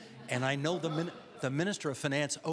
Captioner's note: crowd laughing